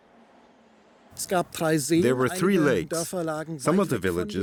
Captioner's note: speaking German